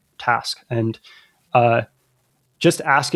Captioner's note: uh